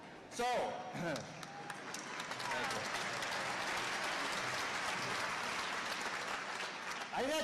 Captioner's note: applause